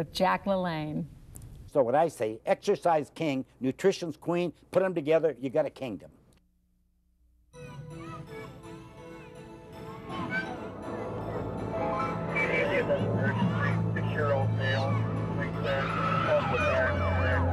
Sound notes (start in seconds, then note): 10.0 children playing